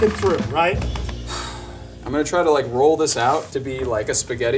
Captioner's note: sighs